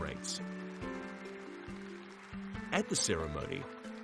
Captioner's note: audience applauds